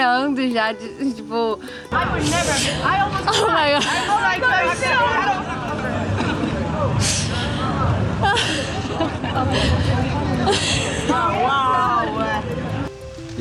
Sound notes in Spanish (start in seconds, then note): 6.5 llorando